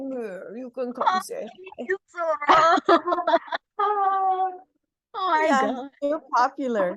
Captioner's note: collective awww